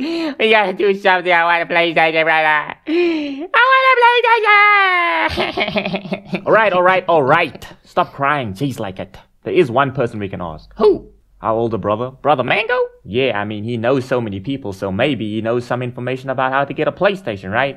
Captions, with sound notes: We gotta do something i want a PlayStation brother I WANT A PLAYSTAION (crying) Alright alright alright stop crying jeez like it There is one person we can ask Who? Our older brother... Brother Mango? Yeah i mean he knows so many people so maybe he knows some info on how to get a PlayStation right?